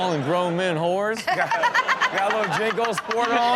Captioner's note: everyone laughs